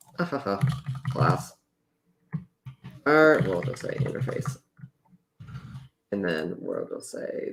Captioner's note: laughs